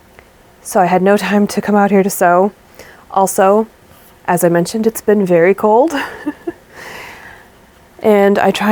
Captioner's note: laughs